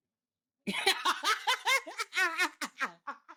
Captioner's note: laughing